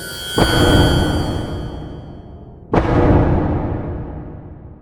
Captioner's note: loud banging